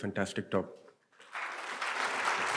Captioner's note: applause